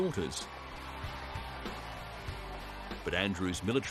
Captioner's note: crowd cheering